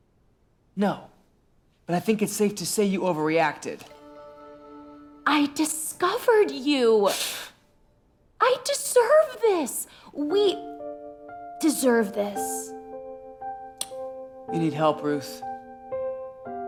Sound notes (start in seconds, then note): 7.1 exhales